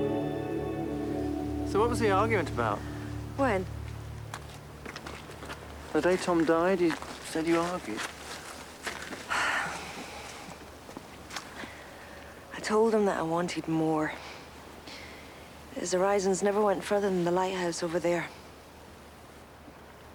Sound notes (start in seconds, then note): 9.3 Amanda sighing